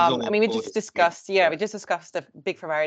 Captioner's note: man's indistinct chatter